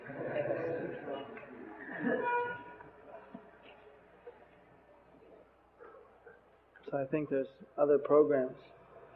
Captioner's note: devotees laugh